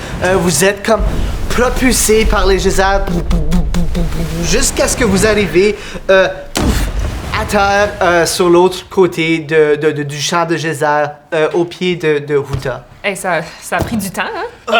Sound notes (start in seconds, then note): 2.9 explosions; 6.1 impact